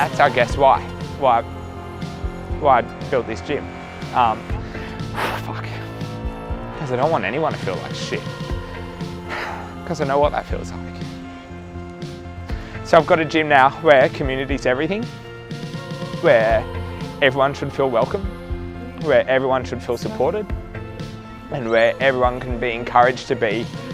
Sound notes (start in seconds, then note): 4.4 exhales; 9.0 sighs